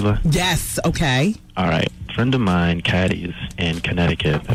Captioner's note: none